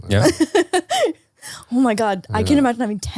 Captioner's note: laughing